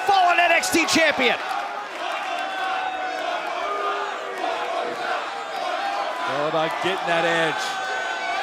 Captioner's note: fans chanting